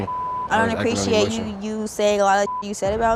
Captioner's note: beep